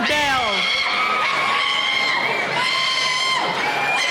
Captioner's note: cheering